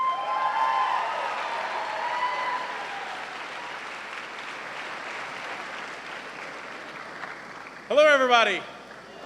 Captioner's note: cheering and applause